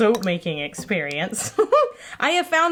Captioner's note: giggle